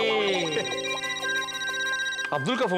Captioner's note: phone ringing